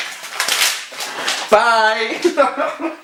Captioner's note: laughter